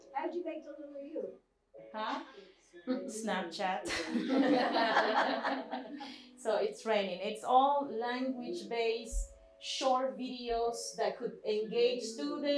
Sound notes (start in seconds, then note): 3.8 laughter